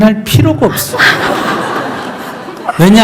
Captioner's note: questioner / Audience Laughter